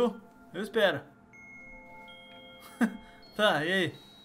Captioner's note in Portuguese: risos